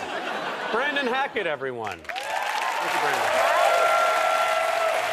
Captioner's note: audience cheers and applause